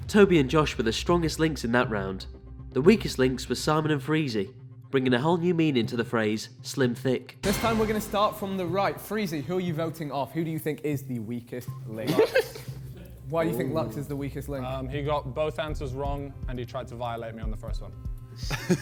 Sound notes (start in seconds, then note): 12.0 contestant laughs; 18.4 KSI laughs